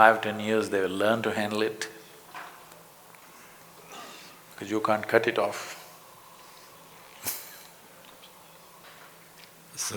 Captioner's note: laugh